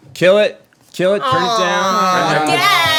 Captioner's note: everyone groans